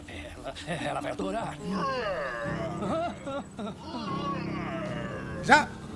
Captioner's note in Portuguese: rugido